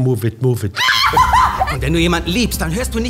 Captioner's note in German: Kreischendes Lachen